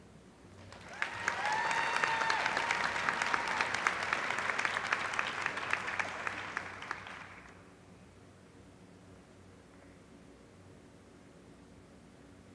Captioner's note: applause